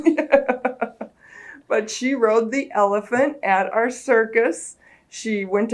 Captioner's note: laughs